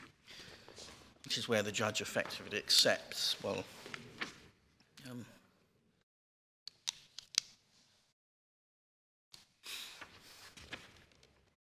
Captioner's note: pause